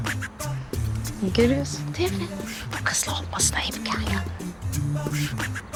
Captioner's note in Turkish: Fısıltıyla